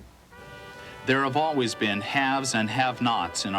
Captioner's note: voiceover